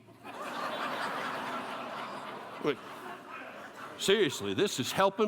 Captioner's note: laughter